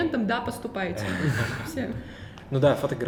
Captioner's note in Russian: смеются